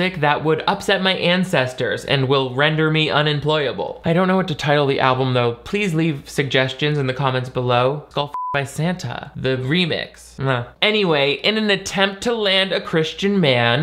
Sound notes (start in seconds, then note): 8.3 beep